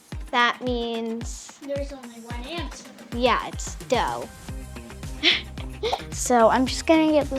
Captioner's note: laughs